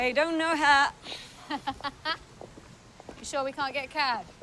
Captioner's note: Anna laughs